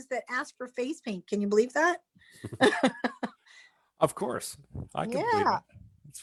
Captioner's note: chuckles